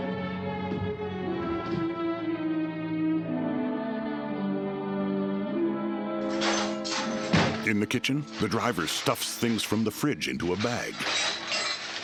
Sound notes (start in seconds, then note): 6.3 clanking